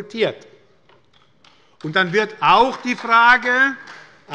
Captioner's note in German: Beifall bei Abgeordneten der SPD